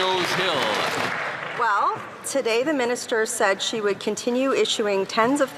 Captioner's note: some Applause